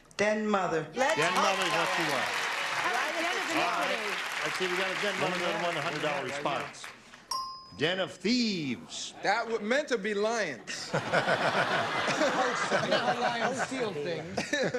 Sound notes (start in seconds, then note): 8.5 beeping; 10.6 laughter